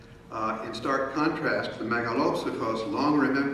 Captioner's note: speaking in foreign language